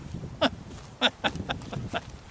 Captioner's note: laughs